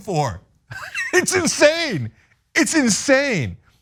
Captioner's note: laugh